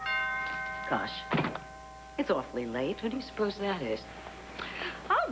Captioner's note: doorbell rings